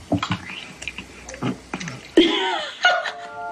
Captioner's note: chewing; laughing